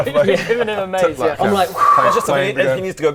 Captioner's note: whoo